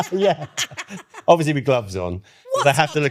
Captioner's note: laughing